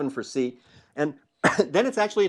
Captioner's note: cough